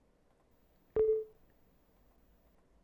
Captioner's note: windows user account control sound